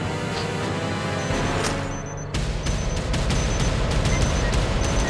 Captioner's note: alarm keypad beeps